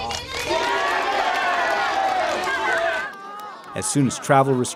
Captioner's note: crowd applauding; crowd cheering